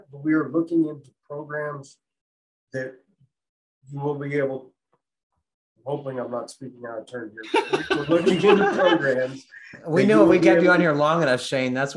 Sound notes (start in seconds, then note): 7.4 laughing